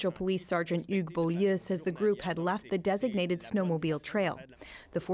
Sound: speaking french

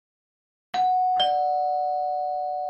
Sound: doorbell rings

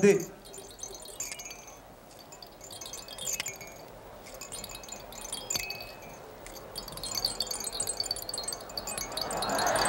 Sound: shaking rattle all around boy's head; crowd applauds

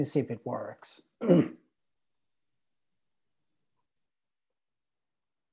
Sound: clears throat

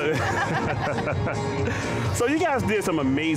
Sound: laughing

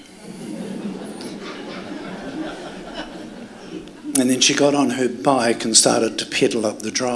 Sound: laughter

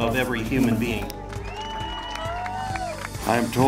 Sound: crowd cheering

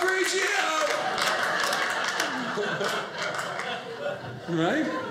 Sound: audience laughing

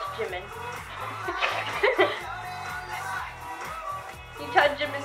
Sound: both laughing

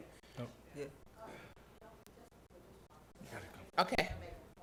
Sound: indistinct conversation

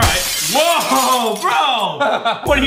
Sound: crashing sound

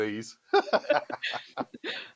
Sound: laughs

